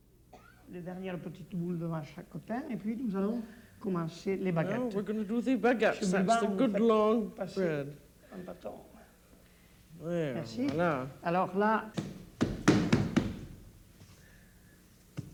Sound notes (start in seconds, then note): 0.2 speaking French; 7.9 speaking French; 10.8 speaking French